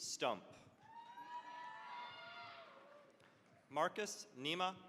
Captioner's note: cheering, applause